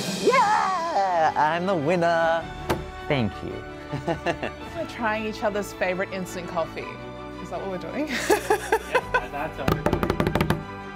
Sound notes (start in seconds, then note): 1.8 triumphant music; 3.9 laughs; 8.1 laughs; 9.5 drumming